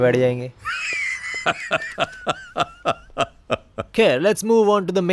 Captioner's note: laughter